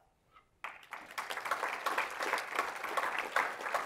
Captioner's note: applause